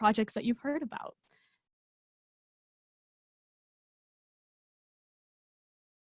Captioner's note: silence